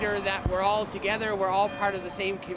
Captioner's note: bells ringing